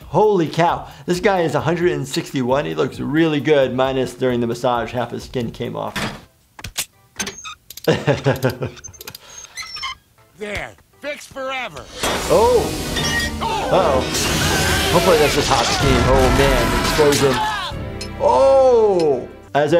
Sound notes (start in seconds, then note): 6.0 laughing; 6.0 metal creaking; 11.8 gas hissing; 11.9 metal clanking; 16.2 Fry and Bender shouting; 16.2 loud explosion